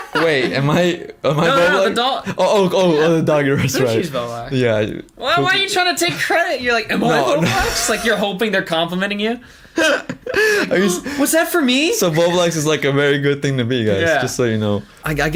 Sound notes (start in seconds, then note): 7.0 laughs; 9.8 laughs; 10.7 gasps